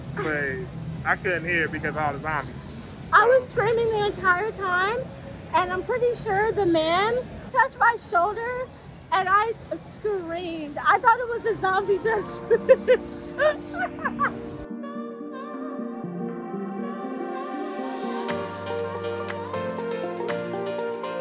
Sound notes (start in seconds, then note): 12.2 laughing; 15.0 upbeat music